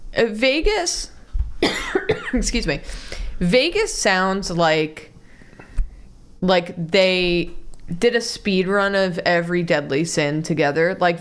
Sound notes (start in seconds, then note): 1.6 cough